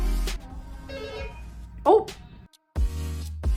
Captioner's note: intercom rings